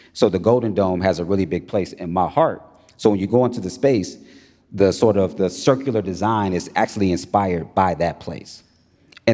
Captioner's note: none